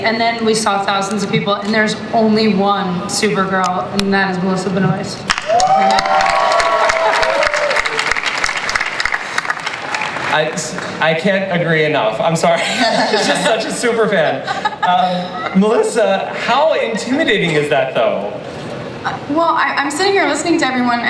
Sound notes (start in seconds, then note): 5.3 cast applauds